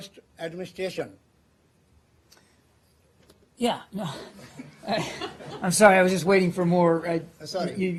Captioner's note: laughter